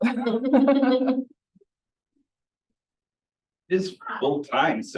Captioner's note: person laughing